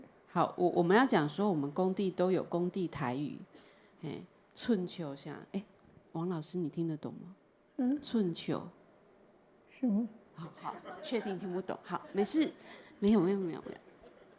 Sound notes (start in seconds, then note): 0.0 Mandarin; 4.6 speaking Taiwanese Hokkien; 6.1 Mandarin; 8.1 speaking Taiwanese Hokkien; 9.8 Mandarin; 10.6 audience laughter; 10.7 Mandarin